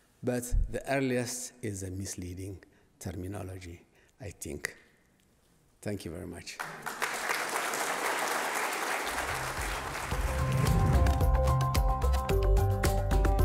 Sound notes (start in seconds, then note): 6.6 audience applauding; 9.2 pleasant music